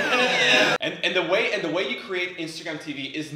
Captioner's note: laughing